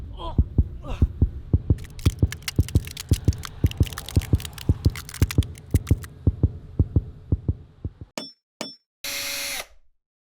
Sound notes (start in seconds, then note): 0.2 heart beating fast; 1.8 ice cracking; 6.1 heart beating fast; 9.0 drill